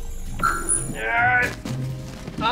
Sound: grunting

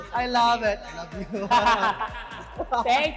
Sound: laughs

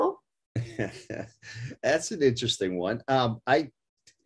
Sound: laugh

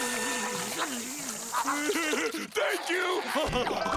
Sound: laughing

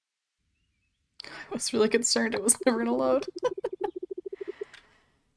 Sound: laughs

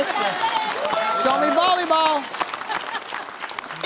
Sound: cheering

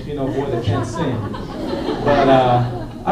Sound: laughter

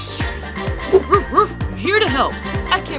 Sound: Krypton barking

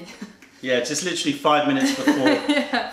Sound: laughter

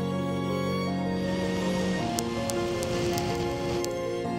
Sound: blowing

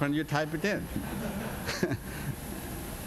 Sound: laughter; laughs

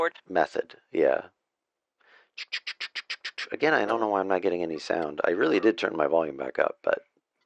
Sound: imitates cart noises

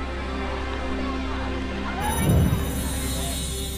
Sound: people shouting; mystical tinkling

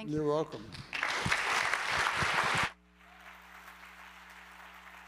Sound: applause

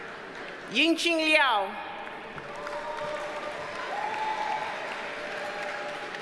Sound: audience cheers and applauds

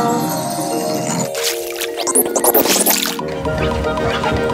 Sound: fish making noise

